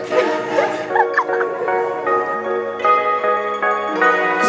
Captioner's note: laughing